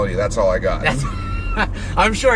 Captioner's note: laughing